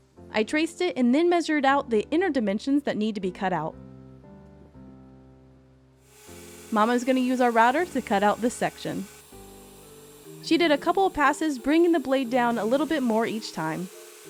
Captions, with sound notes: I traced it and then measured out the inner dimensions that need to be cut out. (router whirs) Mama's gonna use our router to cut out this section. She did a couple of passes, bringing the blade down a little bit more each time.